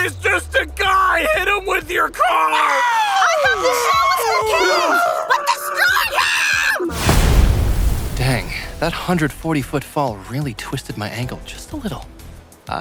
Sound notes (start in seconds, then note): 6.9 explosion